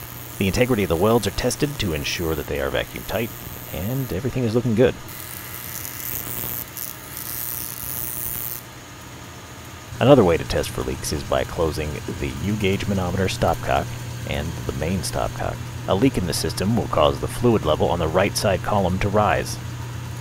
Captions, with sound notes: The integrity of welds are tested to ensure they are vacuum-tight, and everything is looking good. [sparks zapping] Another way to test for leaks is by closing the U-gauge manometer stopcock and the main stopcock. A leak in the system will cause the fluid level on the right side column to rise.